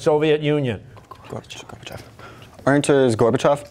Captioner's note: whispering